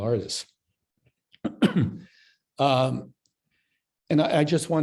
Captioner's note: coughs